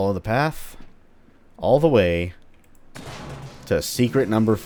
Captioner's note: smash